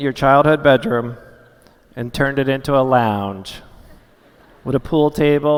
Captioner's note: laughter